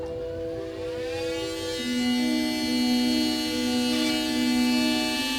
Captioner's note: drill whirling